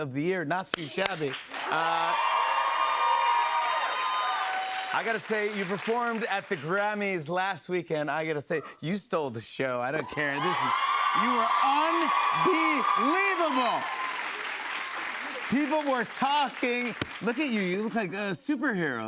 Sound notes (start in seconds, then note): 0.9 cheers and applause